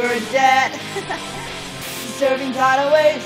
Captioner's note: evil bird laughter